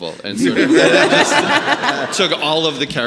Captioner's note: audience laughing